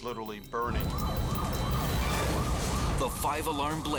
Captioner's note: sirens screaming; fire roaring